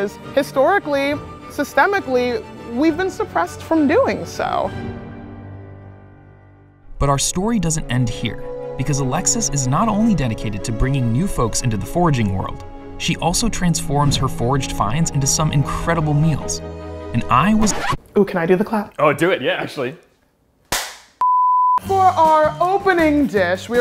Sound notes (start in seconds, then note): 17.5 record scratch; 20.7 clap sound